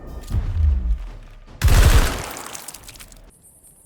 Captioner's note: gunshot